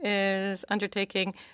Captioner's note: speaking in French